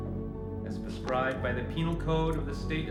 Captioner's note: none